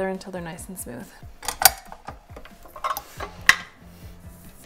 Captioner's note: mixer clangs